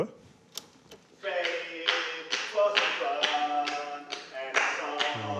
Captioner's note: click!